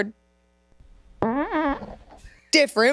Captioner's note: fart whooshes